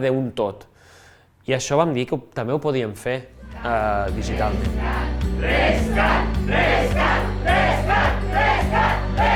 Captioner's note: voices in the background